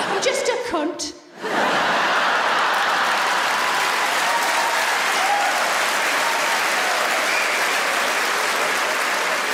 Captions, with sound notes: I'm just a cunt. (audience laughs and applauds)